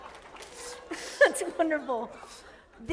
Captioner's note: laughter